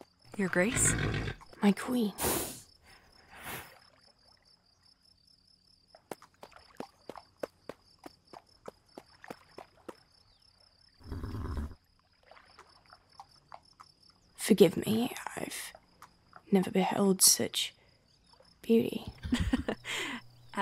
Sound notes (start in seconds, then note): 6.0 footsteps; 11.0 whinny; 19.2 laughs